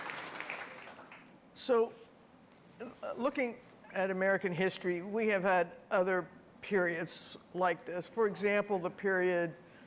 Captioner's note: applause